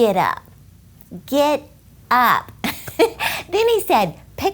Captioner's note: laughs